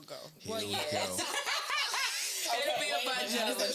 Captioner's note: laughing